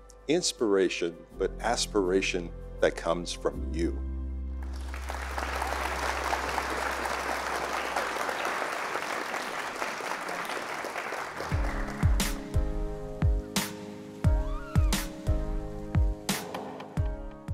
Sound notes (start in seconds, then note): 3.0 applause